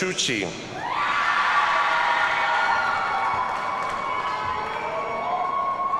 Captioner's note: audience cheers and applauds